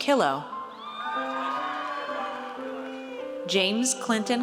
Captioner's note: audience cheers